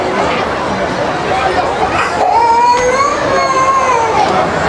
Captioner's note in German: Kind weint